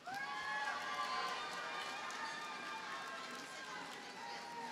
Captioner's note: audience cheers and applauds